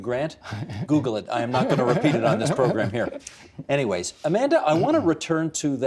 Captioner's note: laughter